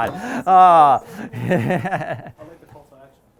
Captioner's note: chuckles